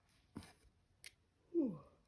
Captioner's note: yawns